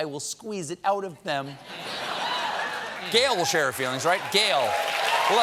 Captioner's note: laughter; cheers and applause